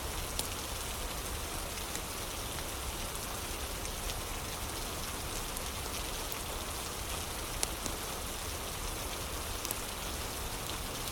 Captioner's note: fire crackling